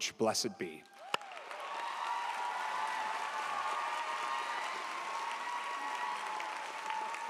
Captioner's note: audience cheers; audience applauds